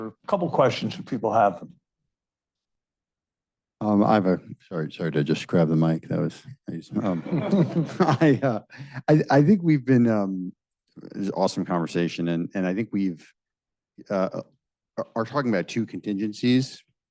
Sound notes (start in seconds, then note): 6.9 audience chuckling